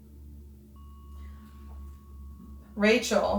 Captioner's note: bell dings